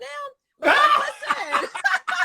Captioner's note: Carlos laughing